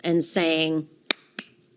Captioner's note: clapping